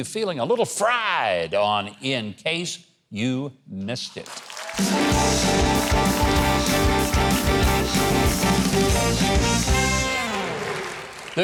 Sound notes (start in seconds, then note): 4.2 audience applaud; 4.7 upbeat music